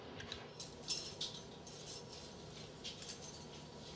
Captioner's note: bells chiming